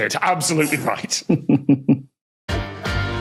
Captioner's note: snickers